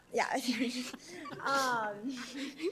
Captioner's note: all laughing